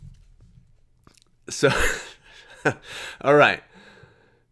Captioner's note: laughs